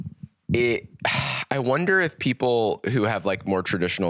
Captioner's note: sighs